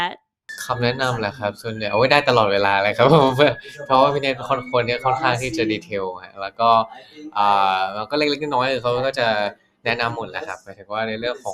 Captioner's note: answering in Thai